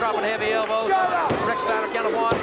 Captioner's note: audience barks